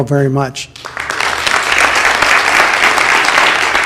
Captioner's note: applause